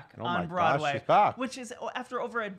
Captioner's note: stutters